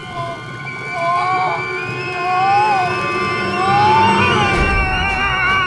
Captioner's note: steam whistling; cook moaning; cook screaming; intense music